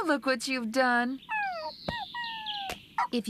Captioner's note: whimpers